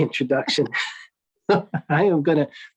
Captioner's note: laughs